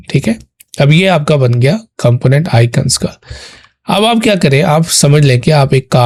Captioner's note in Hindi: नाक से की जाने वाली आवाज़